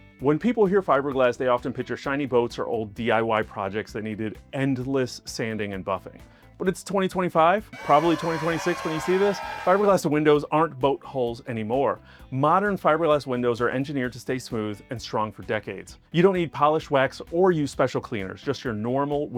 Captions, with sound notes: When people hear "fiberglass," they often picture shiny boats or old DIY projects that needed endless sanding and buffing, but it's 2025 (cheering) probably 2026 when you see this. Fiberglass windows aren't boat hulls anymore. Modern fiberglass windows are engineered to stay smooth and strong for decades. You don't need polish, wax, or use special cleaners, just your normal